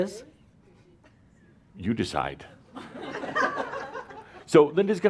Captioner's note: some chuckles